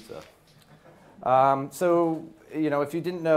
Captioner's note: audience laughs